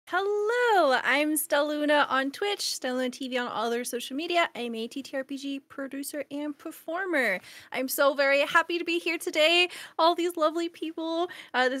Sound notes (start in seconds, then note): none